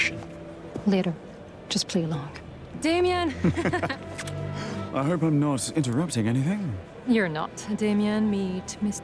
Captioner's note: laughter